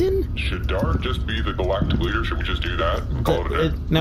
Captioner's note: hesitant